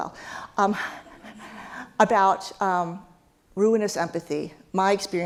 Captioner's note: laugh